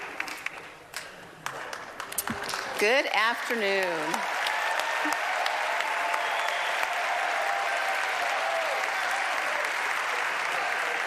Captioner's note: applause